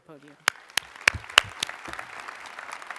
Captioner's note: applause